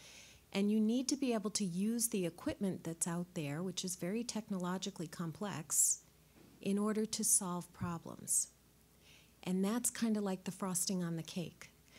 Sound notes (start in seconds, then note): none